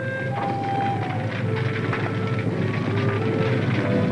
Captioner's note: somber music; footsteps tapping